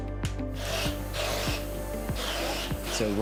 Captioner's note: lively music; tools whirring